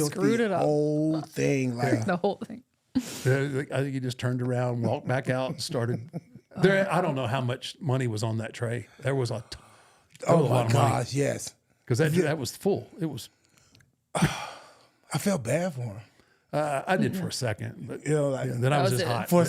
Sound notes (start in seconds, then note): 14.1 R-Truth sighing